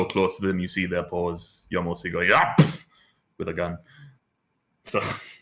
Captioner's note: splat